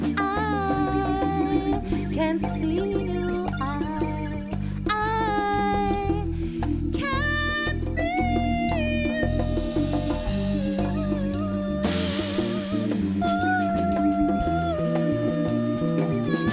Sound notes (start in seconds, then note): 11.7 vocalizing